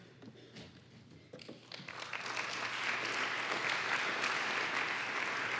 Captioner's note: applause